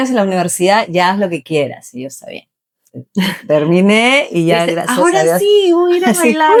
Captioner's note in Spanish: risas